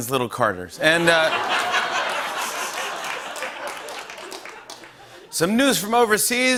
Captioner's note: laughter and applause